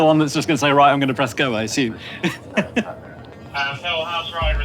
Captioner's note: chuckles